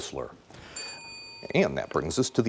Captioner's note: bell dinging